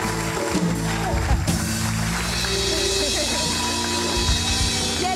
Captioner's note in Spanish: Aplausos